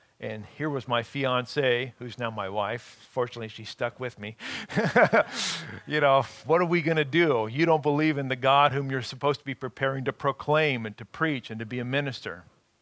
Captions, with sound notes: and here was my fiance, who's now my wife, fortunately, she stuck with me, [laughing] you know, what are we gonna do? You don't believe in the God, whom you're supposed to be preparing to proclaim and to preach and to be a minister.